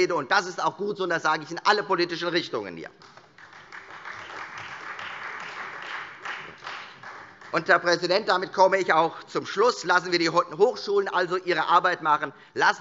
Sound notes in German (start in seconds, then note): 3.0 Beifall Freie Demokraten